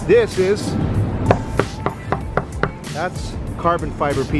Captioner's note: knocking